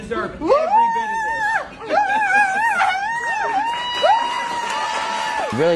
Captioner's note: excitedly screaming